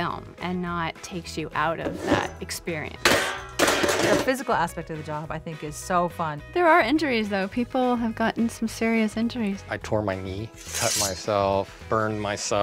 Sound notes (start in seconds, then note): 3.0 clatters